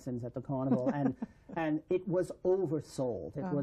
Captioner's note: laughter